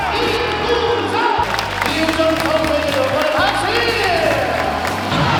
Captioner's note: A perfect shot that elicits only applause